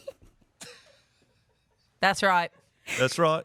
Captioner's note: laughs